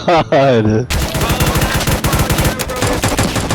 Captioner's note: pandemonium in the streets